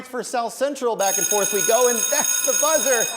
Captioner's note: bell rings